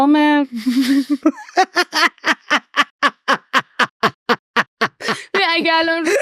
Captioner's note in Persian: خنده